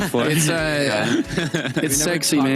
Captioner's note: laughter